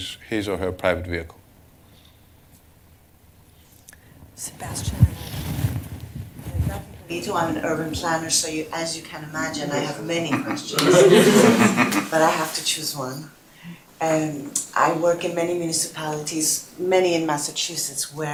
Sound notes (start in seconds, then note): 9.8 laughter